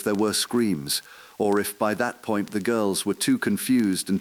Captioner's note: exhale